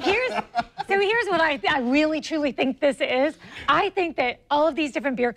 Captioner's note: laughing